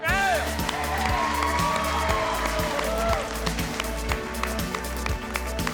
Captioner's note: cheering, clapping